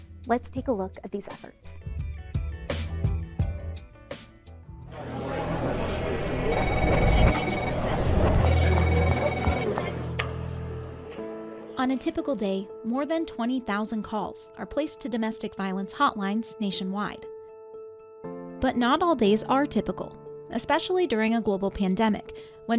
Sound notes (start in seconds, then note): 2.5 gentle music; 5.0 workers chattering and phones ringing